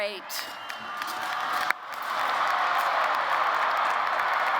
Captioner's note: applause